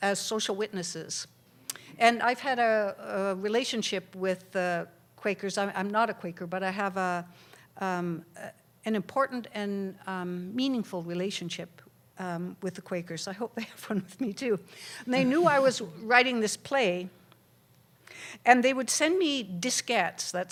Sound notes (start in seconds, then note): 15.4 laughter